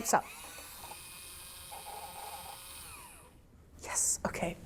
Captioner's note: can opener whirring